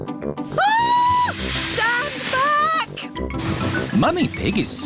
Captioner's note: shrieks